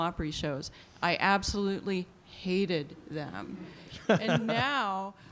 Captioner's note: light laughter